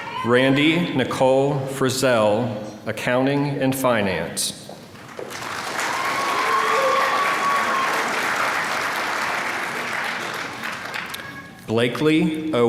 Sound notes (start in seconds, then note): 5.0 applause